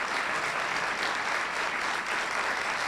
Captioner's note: applause